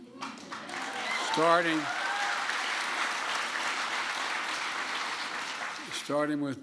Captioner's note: applause